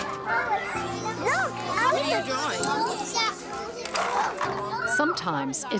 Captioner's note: classroom chatter